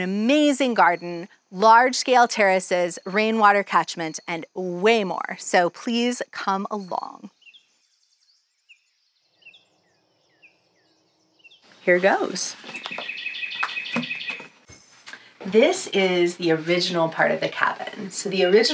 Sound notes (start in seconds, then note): 8.0 birds chirping